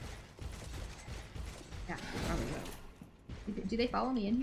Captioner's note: gunfire